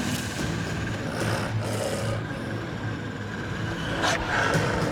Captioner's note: dog growling